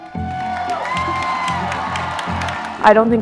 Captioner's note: cheers